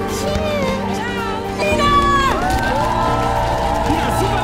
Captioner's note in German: Jubel, Applaus